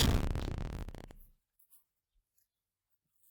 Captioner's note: electronic buzzing